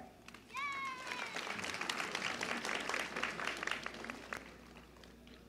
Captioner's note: applause and a child yelling "yay!"